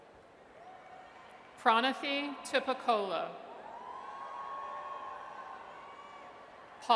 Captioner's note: audience cheers